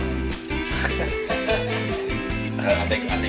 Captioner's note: laughing